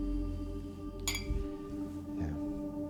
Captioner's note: glasses clinking